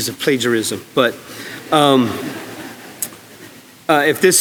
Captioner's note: audience laughing